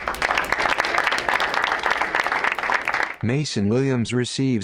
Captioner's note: crowd applauds